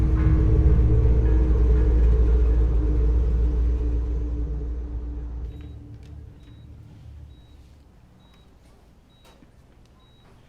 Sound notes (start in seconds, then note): 0.0 dark eerie music; 5.4 monitor beeping